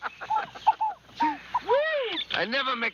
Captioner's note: chuckling